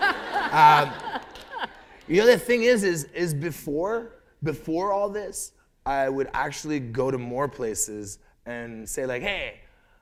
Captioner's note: laughter